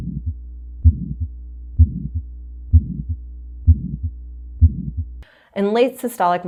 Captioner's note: heart beating